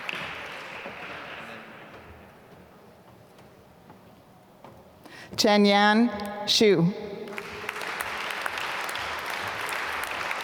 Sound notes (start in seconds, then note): 7.2 applause